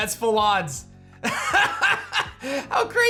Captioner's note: laughs